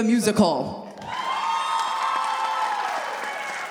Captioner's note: audience cheering